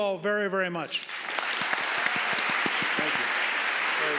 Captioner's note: audience applauding